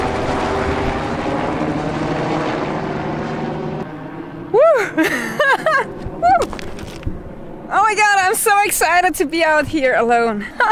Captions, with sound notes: Wooo (laughs) Oh my god I'm so excited to be out here alone!